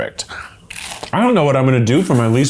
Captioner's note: crunching